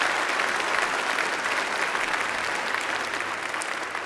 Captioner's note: applause